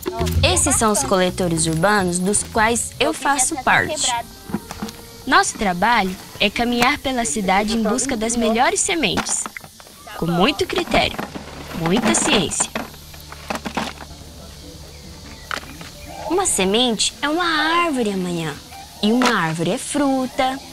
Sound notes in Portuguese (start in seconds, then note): 13.7 zumbido de insetos; 14.0 canto de pássaros